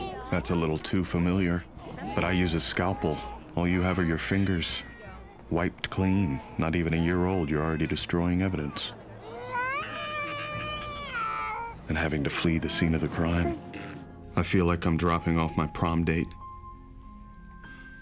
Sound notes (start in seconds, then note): 9.1 baby crying